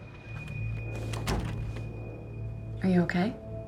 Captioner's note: haunting dramatic music; door clicking shut